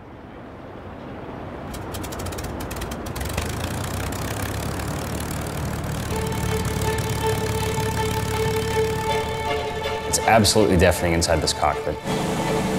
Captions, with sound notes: (airplane propellers starting) (dramatic music) - It's absolutely deafening inside this cockpit.